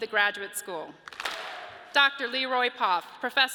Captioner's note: audience claps